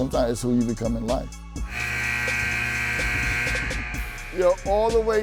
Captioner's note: buzzer beeps